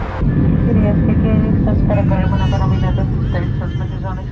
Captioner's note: stewardess speaking in Greek